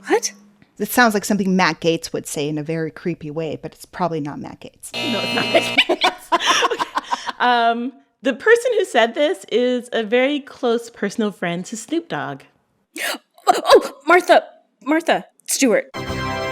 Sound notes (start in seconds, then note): 4.9 soundbite of buzzer; 5.6 laughter; 15.8 soundbite of victory tune